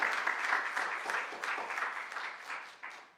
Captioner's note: applause